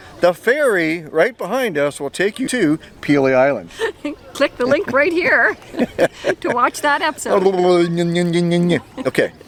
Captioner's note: laughing; silly noises